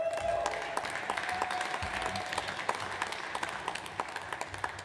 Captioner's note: audience applauds